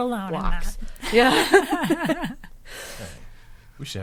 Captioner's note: laughing